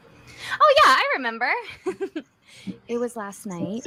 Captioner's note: giggles